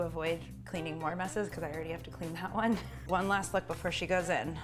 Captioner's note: laughs